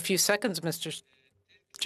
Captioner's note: speaking French